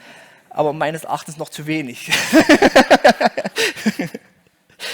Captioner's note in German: Gelächter